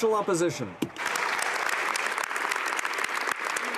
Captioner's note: some Applause